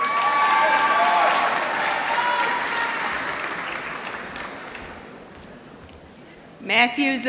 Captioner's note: applause